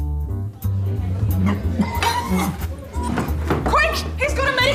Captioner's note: chokes